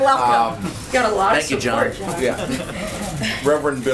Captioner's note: laughs